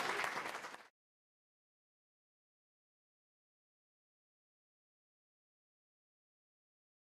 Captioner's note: applause and cheering